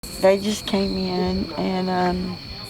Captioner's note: insects chirping